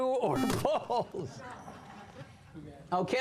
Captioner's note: buzzer